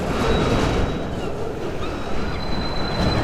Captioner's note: train rumbling, wheels screeching; traffic noise